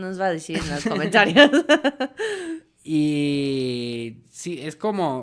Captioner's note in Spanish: risas; risas